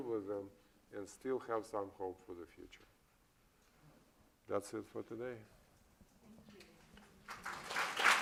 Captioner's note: applause